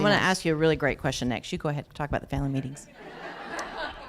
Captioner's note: laughter